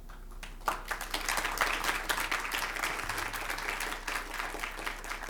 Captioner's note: crowd applauding